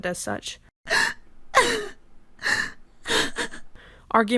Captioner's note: woman sobbing irrationally